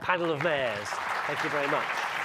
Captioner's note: audience clapping